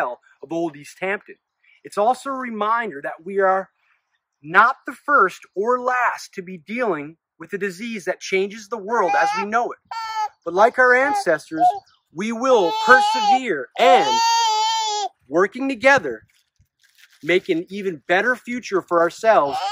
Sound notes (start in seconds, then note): 8.9 baby cries